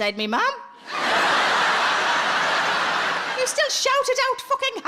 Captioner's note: audience laughs